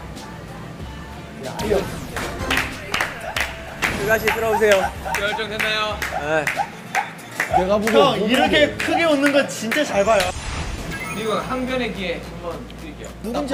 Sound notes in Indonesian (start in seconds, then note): 9.9 Bertepuk tangan